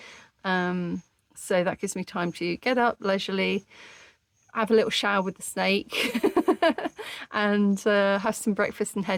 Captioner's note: laughing